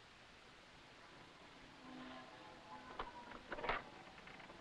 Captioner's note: bells pealing